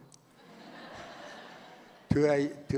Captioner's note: audience laughs